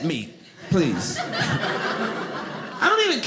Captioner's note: audience laughing